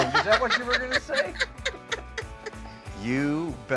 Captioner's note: laughs